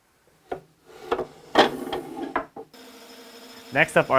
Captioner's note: wooden clicking